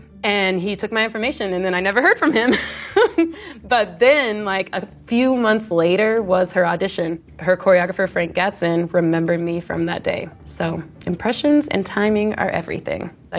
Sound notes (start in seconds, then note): 2.4 laughs